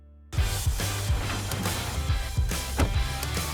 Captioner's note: crowd cheers